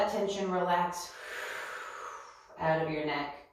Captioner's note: exhales